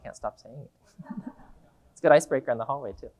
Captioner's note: audience laughing